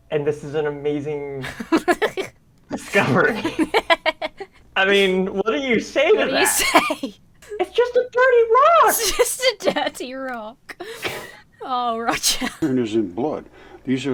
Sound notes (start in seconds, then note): 2.8 both laugh; 8.8 laughs